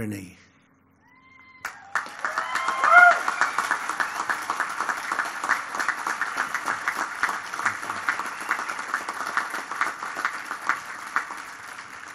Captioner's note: applause